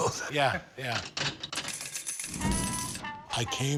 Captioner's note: slot machine lever pulls, coins clatter